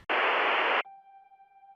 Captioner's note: static